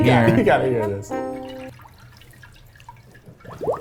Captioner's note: sloshing